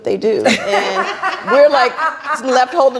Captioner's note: laughing